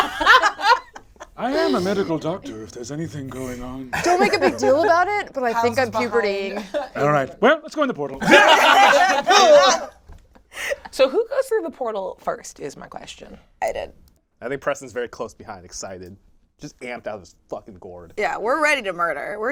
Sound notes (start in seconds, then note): 0.0 all laugh; 8.8 call out